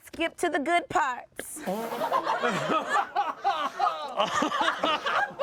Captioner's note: everyone laughs